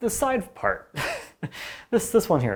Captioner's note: laughing